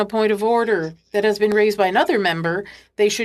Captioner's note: speaking French